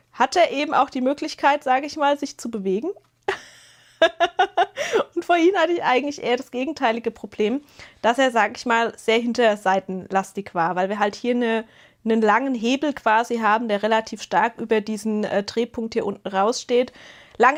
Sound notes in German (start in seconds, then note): 3.3 gelächter